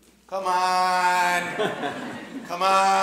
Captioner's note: audience chuckling